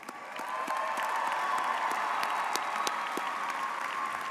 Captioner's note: audience cheers